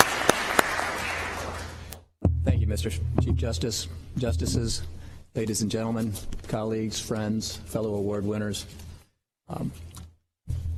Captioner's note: applause